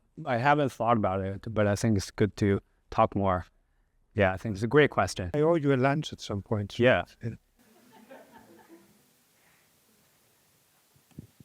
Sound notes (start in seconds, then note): 7.7 laughter